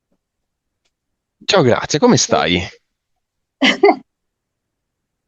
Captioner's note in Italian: risate